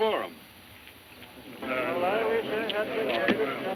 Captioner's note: men muttering